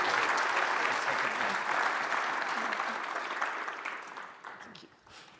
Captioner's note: audience applauds